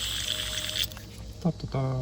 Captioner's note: spraying